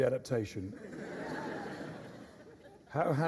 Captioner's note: laughter